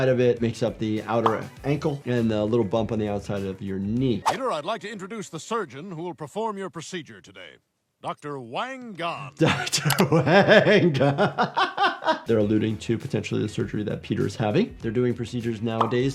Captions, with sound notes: It makes up the outer ankle, and the little bump on the outside of your knee. - Peter, I'd like to introduce the surgeon who will perform your procedure today. Dr. Wang Gone. - Wang (laughs). They're alluding to potentially the surgery Peter is having. They're doing procedures nowadays